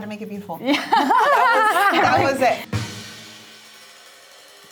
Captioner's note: all laugh